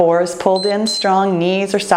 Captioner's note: timer beeps